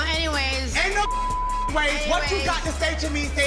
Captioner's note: beep